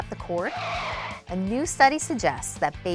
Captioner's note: tires screeching